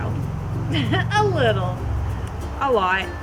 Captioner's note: laughing